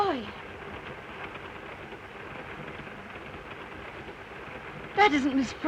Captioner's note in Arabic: صوت خشخشة القطار